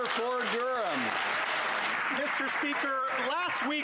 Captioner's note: some Applause